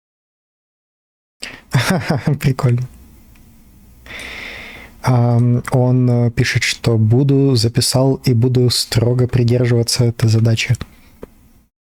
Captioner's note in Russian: смех